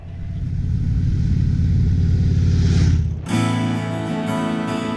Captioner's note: motorcycle roaring